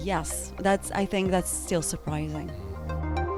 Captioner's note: voiceover